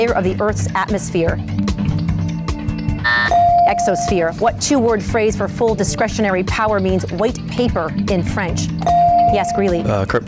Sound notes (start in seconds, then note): 3.1 timer buzzes; 8.8 bell dings